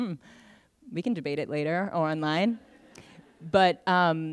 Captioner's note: laughter